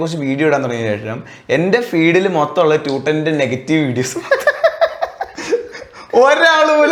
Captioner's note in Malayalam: പൊട്ടിച്ചിരി